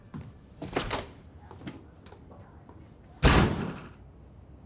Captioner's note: door clacks; door thuds